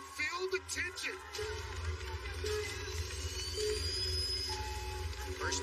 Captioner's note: countdown clock beeping